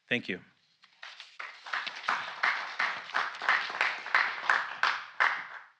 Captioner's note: applause